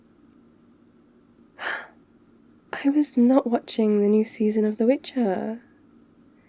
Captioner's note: gasps